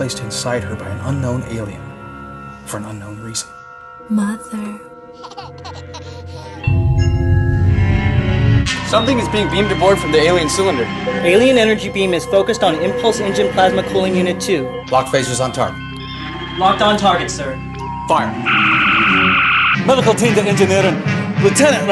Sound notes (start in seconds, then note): 5.1 baby laughter